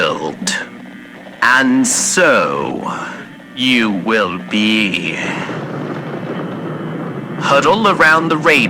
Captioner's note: thunder fx